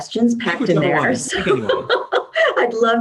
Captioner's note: laughs